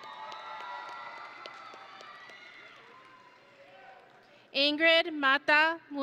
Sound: audience and graduates cheering

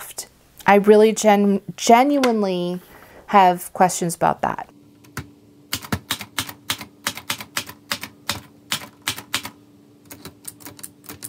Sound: computer Clacking Sounds

